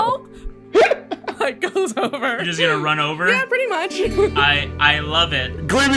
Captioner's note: laughs